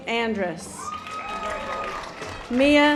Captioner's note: audience applause